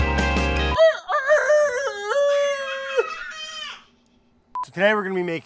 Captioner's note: mimicking rooster crowing